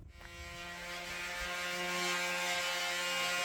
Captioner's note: electric sander